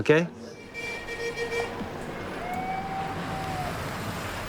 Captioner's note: car horn sounds